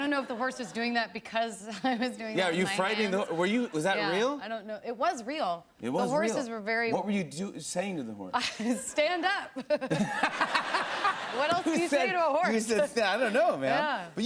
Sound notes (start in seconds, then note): 9.9 laughter